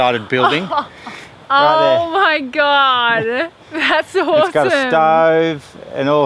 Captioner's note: laughing